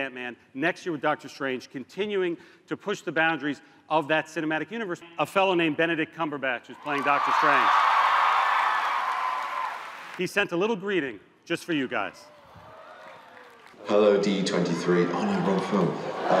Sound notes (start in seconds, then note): 6.8 cheers and applause